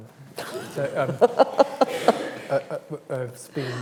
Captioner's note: all laugh